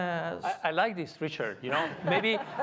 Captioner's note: crowd laughs